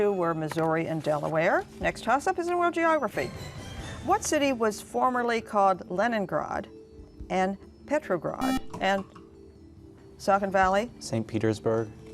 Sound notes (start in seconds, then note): 8.4 buzzer